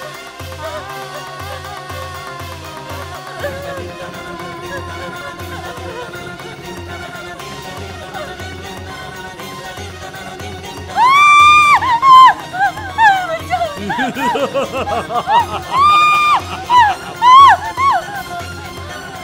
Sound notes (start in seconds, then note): 13.8 laughs; 15.2 screams